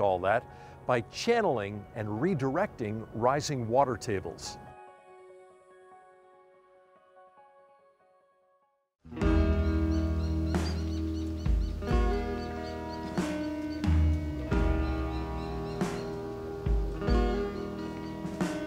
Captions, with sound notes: all that by channeling and redirecting rising water tables. (calm piano music) (mellow instrumental music) (birds tweeting)